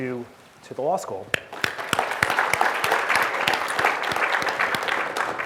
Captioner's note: audience clapping